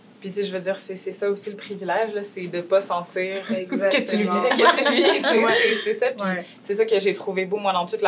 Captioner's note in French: rires